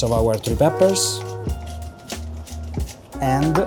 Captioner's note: lively music; pepper grinding